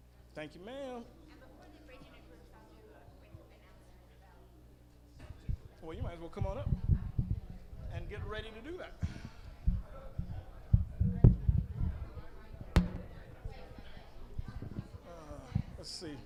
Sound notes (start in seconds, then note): 1.5 female audience member speaking; 12.5 microphone clunking